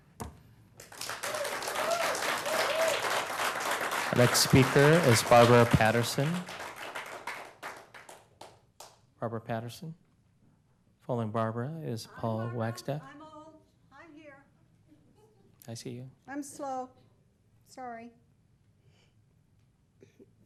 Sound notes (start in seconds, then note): 4.7 applause